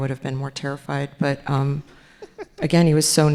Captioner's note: laughing